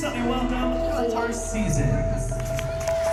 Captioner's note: applause